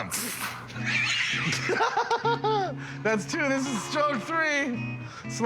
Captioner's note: giggles; snickers